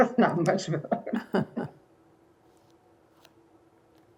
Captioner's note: laughter